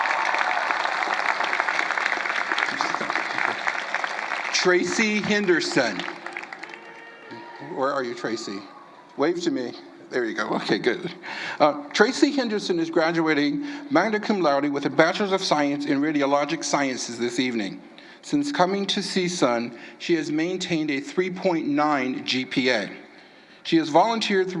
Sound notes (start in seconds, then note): 11.9 applause